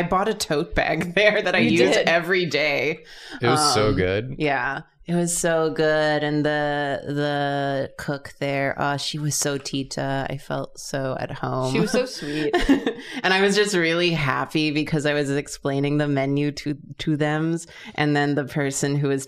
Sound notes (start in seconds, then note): 8.7 foreign language